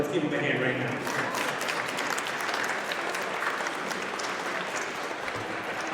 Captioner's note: audience applauds